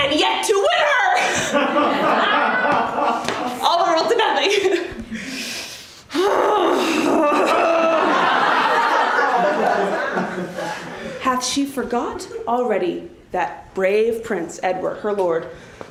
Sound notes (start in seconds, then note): 5.6 grunts